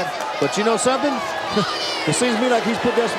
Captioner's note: chuckling